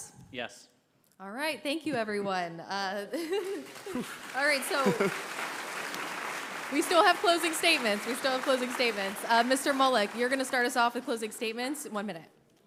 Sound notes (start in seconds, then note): 3.1 laughter; 4.2 applause